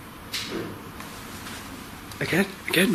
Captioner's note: clank